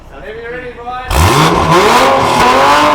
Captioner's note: engine revving